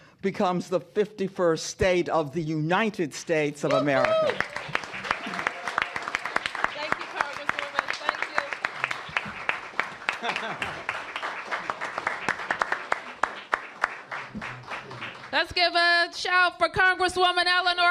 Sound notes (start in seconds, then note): 4.5 cheers and applause